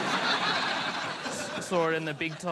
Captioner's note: laughter